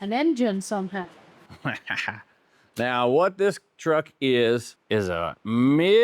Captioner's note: laughs